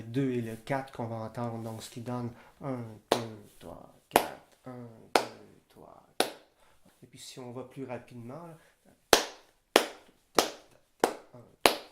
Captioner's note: clapping hands